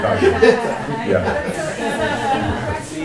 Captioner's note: laughter